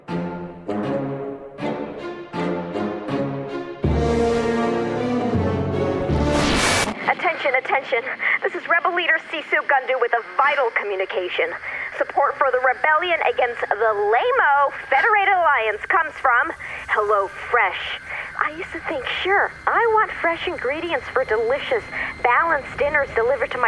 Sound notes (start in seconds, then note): 6.5 static; 6.5 transition music; 14.3 singsong